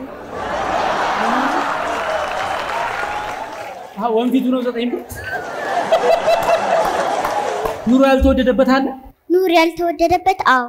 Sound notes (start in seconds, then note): 0.2 laughter; 5.0 laughter